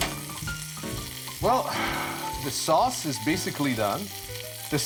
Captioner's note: spoon tapping pan; sighs